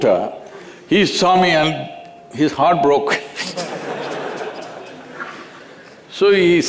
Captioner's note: laughter